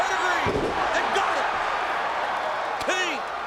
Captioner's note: audience cheers